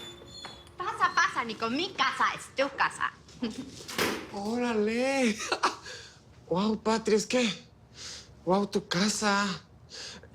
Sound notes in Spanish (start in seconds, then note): 3.8 Sonido al cerrar la puerta